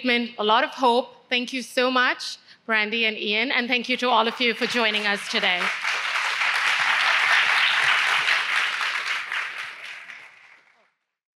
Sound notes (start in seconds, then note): 9.6 applause